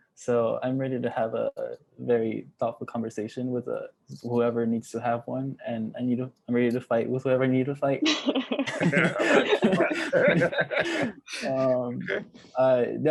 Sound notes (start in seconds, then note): 8.4 laughs